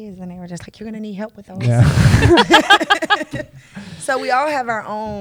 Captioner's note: laughter